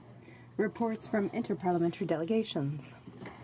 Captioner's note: speaking French